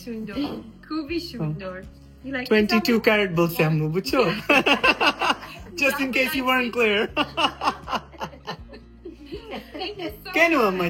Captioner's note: loud laughter